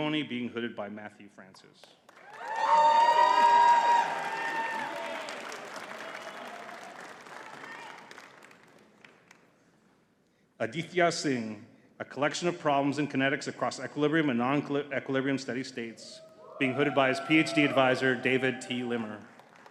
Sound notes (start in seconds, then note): 2.1 audience cheering and clapping